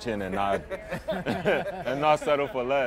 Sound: crowd laughs

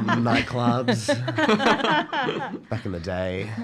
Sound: laughter

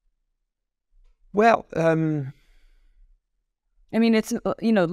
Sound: pause

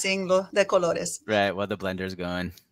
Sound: speaking in foreign language

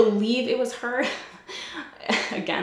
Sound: giggles

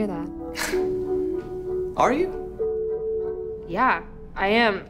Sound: scoffs

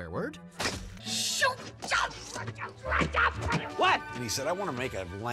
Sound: hollers

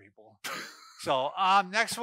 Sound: laughing

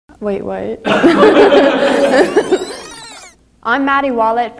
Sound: laughter and rewinding sound

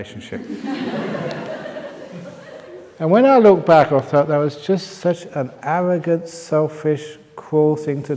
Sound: laughter

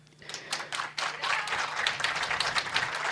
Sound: applause

